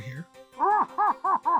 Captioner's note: muffled gasmask laughter